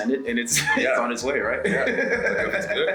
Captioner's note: laugh